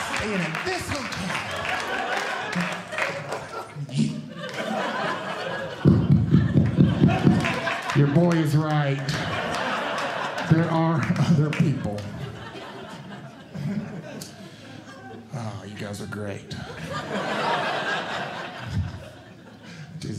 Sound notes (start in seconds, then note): 1.4 audience Laughing; 5.0 audience Laughing; 5.8 knocking; 9.2 audience Laughing; 11.8 audience Laughing; 16.4 audience Laughing